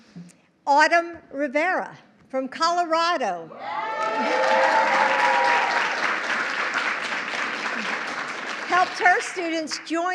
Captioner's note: applause